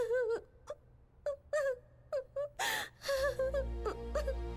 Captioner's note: crying